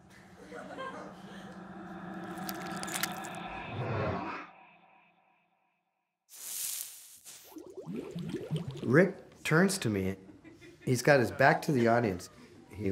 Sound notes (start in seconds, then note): 1.2 whooshing; 2.1 squishing; 6.4 hissing; 7.3 bubbling